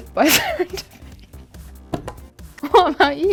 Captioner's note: laughs